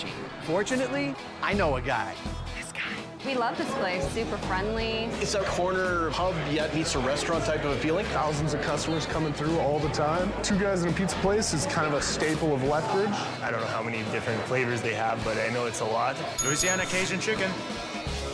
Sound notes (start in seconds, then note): 16.3 bell dinging; 18.0 upbeat guitar music